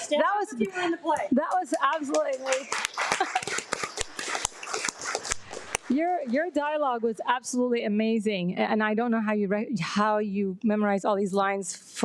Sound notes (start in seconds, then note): 3.2 audience applauds